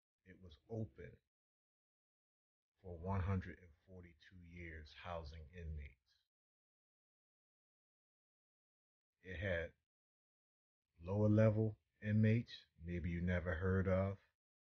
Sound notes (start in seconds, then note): none